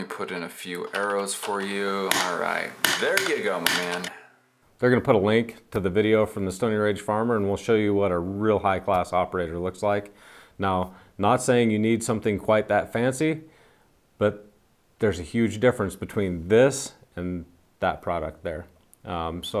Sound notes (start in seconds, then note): 0.8 keyboard clicking; 2.0 pen tapping